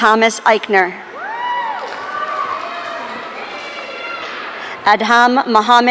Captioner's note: audience cheering